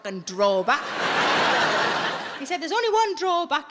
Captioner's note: audience laughing